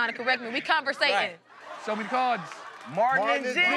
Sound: laughing

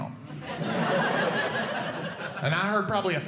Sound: audience Laughing

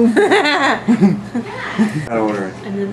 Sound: laughs

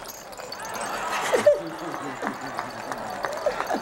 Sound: shaking rattle around boy's head; crowd applauds; laughter

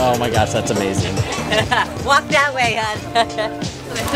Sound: laughter

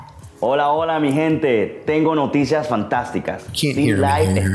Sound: speaking Spanish

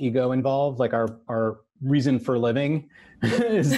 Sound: all laugh

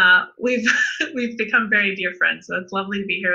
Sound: laughs

